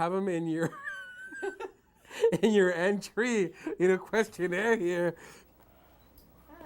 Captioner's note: laughing